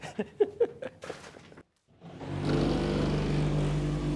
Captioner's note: laughing